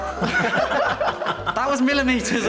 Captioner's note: oliver & lewis laughing